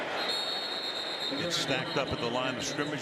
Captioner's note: whistle